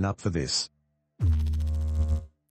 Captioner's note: electrical noise